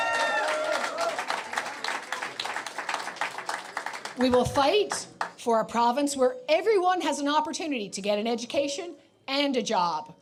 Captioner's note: applause